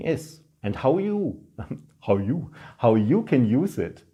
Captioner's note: chuckling